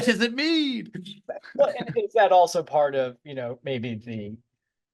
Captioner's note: laughter